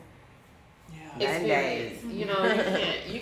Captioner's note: speaking faintly